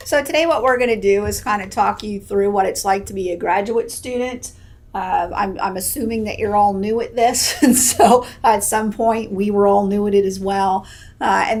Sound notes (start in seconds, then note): 7.4 laughs